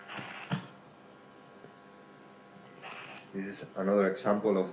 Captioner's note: mouse clicking